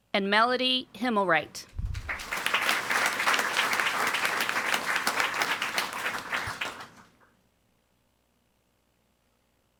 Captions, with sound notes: And Melody Himelright. (audience applauding)